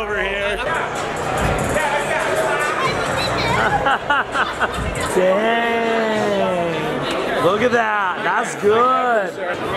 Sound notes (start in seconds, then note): 1.9 trap music; 3.1 laughing